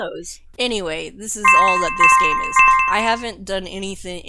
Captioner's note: jingle... Jingle... Jingle